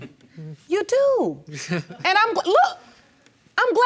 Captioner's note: chuckles